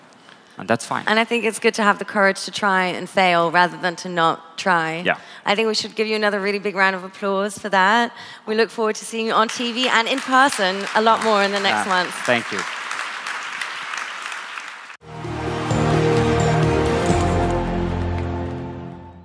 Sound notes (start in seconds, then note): 12.6 applause